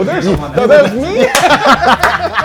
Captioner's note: laughter